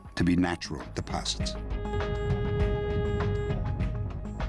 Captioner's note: humming